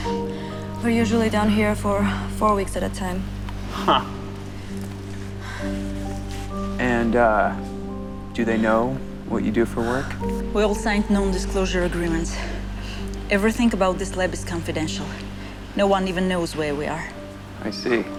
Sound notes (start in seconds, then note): 4.5 Brooks scoffs